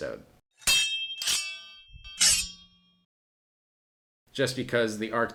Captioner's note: blades clanging